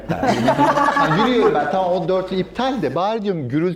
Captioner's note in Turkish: kahkaha